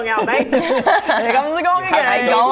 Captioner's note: laughing